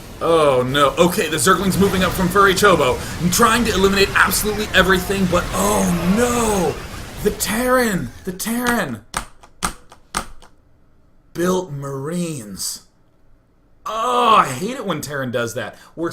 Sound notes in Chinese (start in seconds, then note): 9.1 敲 敲 敲